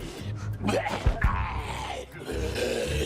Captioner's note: zombie groaning